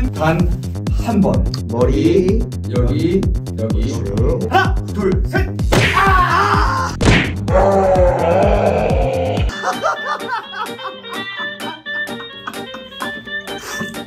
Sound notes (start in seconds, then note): 7.0 balls burst